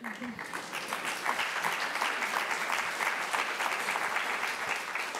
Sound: applause

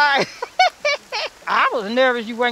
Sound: laughs

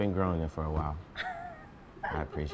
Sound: laughing

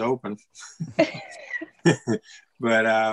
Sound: all laughing

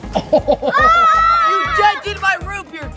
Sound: laughs; screams

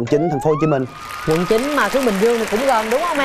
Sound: audience applause

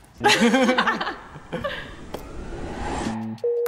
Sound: both laughing

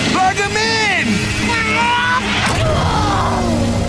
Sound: grunting

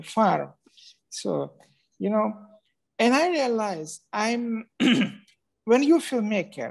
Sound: clears throat

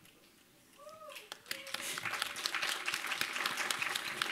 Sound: applause

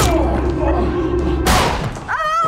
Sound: gun smacking; gun firing; screaming

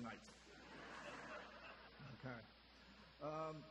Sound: audience laughter

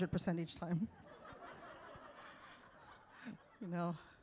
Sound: audience laughs

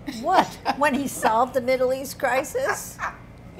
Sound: laughs

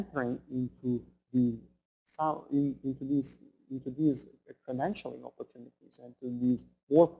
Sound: stuttering

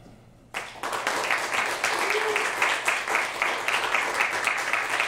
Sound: clapping and cheering

